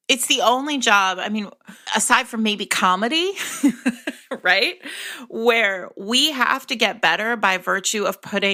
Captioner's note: laughs